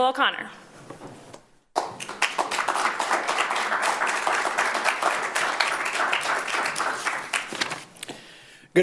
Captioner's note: applause